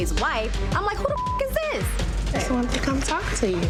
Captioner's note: beep